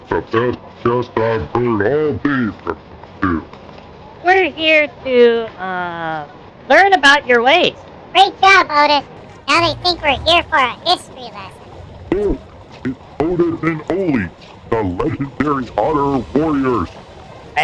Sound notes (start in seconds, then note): 4.6 trying to sound confident; 8.7 whispering to Otis